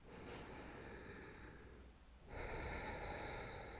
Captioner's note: breathing deeply